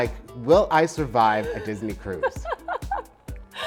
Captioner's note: laughs